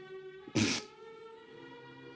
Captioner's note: sniggers